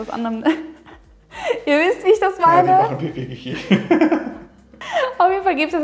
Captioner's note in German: lacht